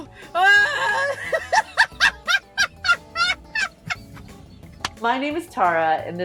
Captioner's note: hilarious levels of infectious laughter